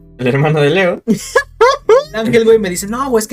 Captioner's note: laughs and tries to contain his rage + aura